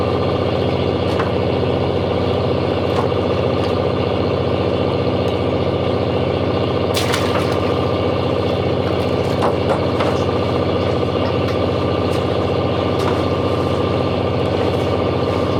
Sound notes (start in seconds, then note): 5.9 engine revving